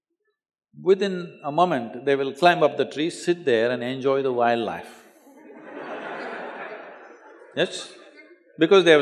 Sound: laughter

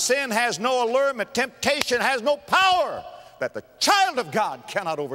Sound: clap

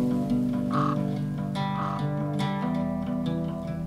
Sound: birds trilling; animal cawing

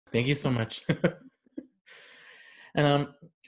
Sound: laughs

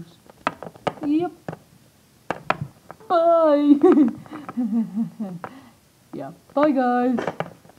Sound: laugh

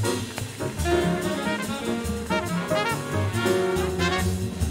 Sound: audience applauds

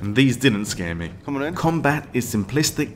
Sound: recorded voice from gameplay

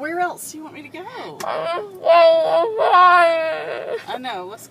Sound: crying

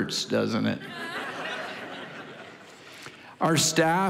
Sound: congregation laughing

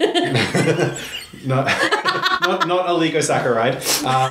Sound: laughs

